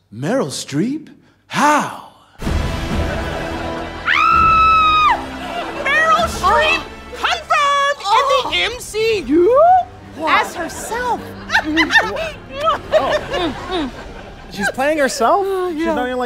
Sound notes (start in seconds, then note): 2.4 credit Music; 4.0 screams